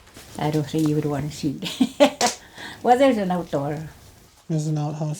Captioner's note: chuckles